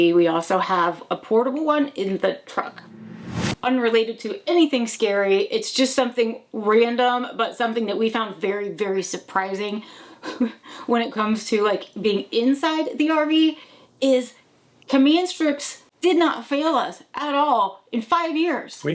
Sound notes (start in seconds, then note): 2.6 logo whooshing